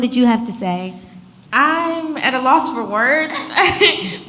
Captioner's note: laughs